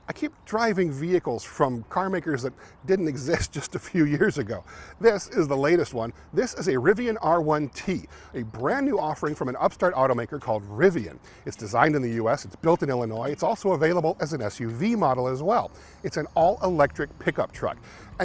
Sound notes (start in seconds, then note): 3.4 laughs